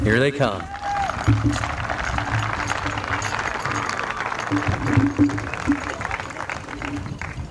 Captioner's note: applause